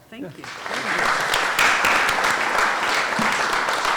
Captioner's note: applause